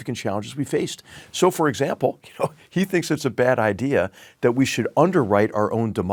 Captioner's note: laugh